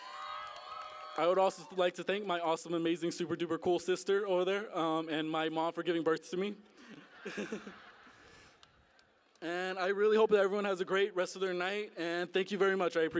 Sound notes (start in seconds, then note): 6.7 laughter